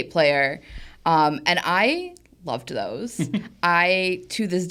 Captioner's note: laughs